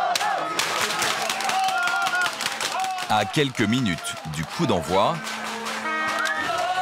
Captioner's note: applause